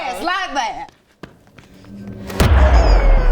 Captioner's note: booooooooooooooom!!!!